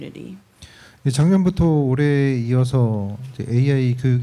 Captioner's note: speaking korean